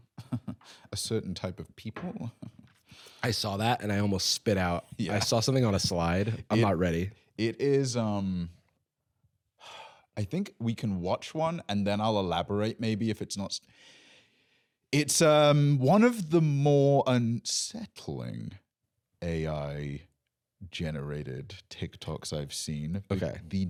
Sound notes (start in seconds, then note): 0.0 chuckles; 9.6 sighs